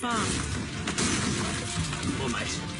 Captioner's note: door crashing